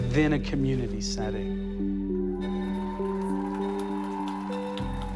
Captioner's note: cheering and applause